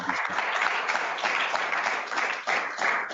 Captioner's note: applause